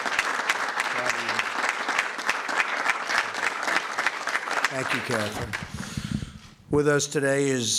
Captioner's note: applause